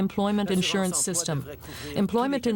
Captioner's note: speaking French